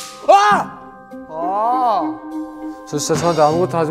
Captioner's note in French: Gémissements